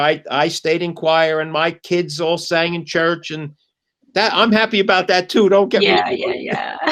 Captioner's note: laughter